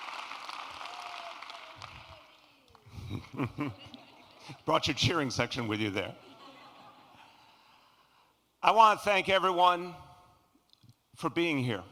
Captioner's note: qñrAPPLAUSE